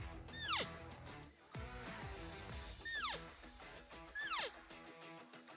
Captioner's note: elk call